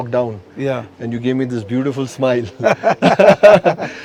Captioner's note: laughs